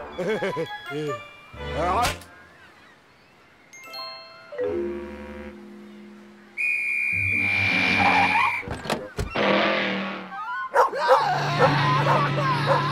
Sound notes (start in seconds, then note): 0.1 laughs; 9.1 door opens, closes; 10.7 barking